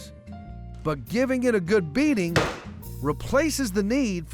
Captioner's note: pounding sound